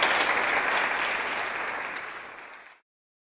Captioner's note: applause